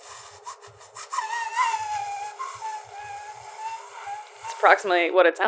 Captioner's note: musical air exhalation through lips; he's basically lip whistling at this point